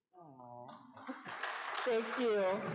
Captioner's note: audience clapping